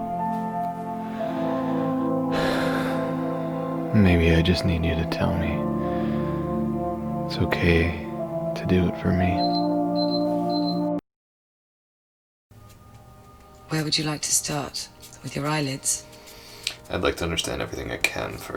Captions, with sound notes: [sigh] Maybe I just need you to tell me it's okay to do it for me. [beeping] Where would you like to start with your eyelids? I'd like to understand everything I can first.